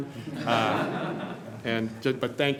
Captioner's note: group laughing